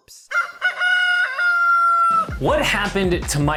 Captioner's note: rooster crows